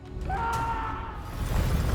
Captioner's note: screaming